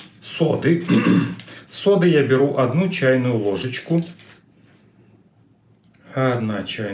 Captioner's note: clears throat